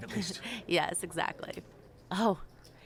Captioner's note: laughs